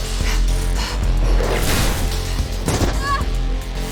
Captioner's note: panting; shouting